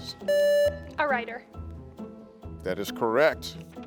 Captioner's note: contestant beeping